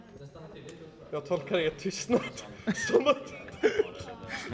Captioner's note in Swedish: Skratt